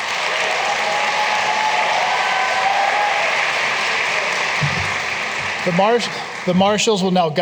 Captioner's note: applause